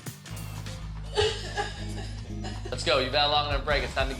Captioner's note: sobbing